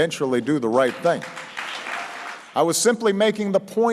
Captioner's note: applause